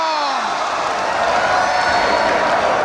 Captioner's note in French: en choeur